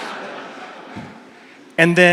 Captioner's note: audience laughs